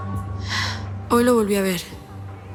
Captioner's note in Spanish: Suspiro